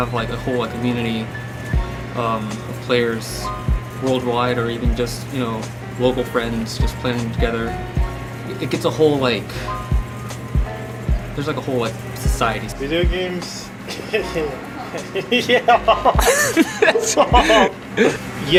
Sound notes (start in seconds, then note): 13.8 laughs